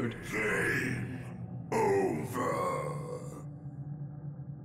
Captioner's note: roars